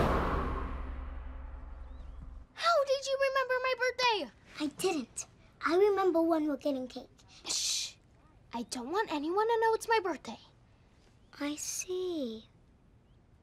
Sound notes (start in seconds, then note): none